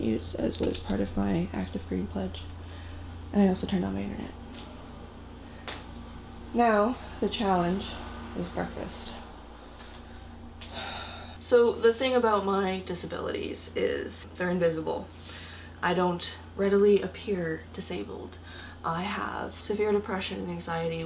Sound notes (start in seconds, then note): 10.7 sigh